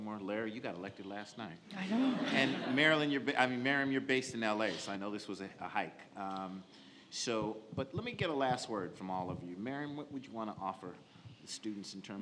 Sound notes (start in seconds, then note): 1.8 audience laughs